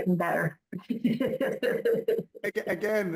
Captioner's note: laughs